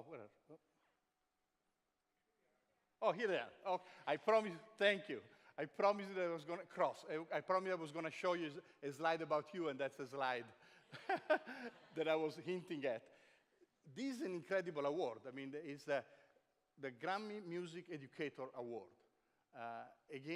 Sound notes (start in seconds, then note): 10.9 chuckles